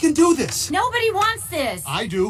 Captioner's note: As Bo Peep